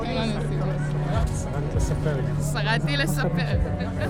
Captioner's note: speaking foreign language